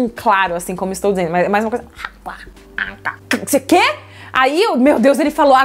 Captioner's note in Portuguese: balbucia